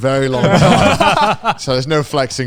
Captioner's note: all laughing